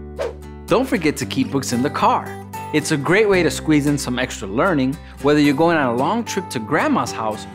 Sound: none

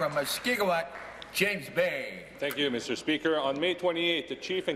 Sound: some Applause

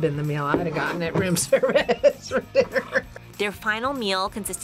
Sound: laughs

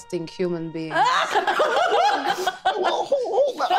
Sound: group laughing

